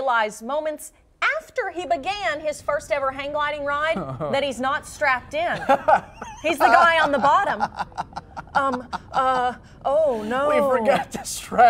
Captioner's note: laughter